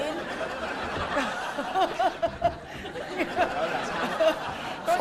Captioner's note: laughing